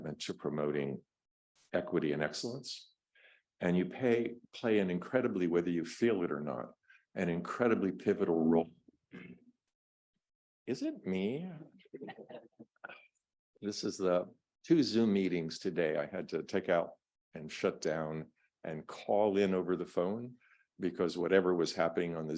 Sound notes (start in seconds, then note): 9.2 clears throat; 12.0 audience members chuckling